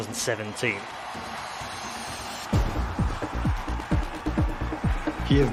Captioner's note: crowd cheering